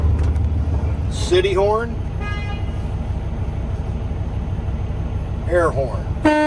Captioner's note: horn honks